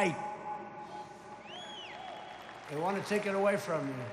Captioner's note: applause